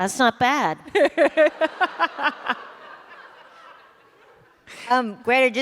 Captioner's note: laughter